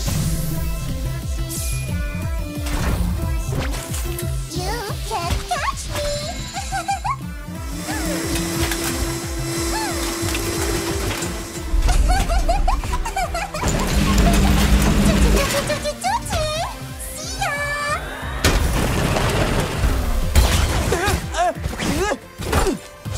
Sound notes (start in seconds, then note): 0.1 peppy anime-style music playing; 4.9 in English; 6.4 giggling; 17.2 in English; 18.6 peppy anime-style music playing; 20.9 yelps, grunts